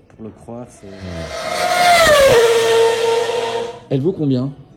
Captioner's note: motor roaring